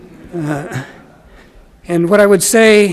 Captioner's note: audience laughs